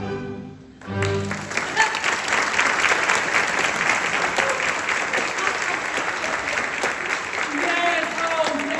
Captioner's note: music concludes; applause